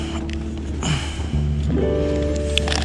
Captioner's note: really constipated grunt